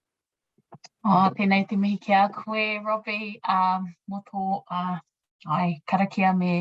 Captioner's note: speaking in a foreign language